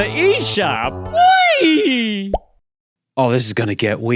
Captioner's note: pops